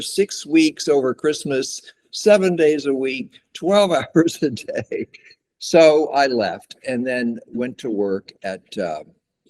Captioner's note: laughs